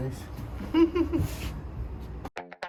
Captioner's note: chuckle